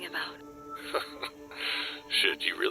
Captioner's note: chuckles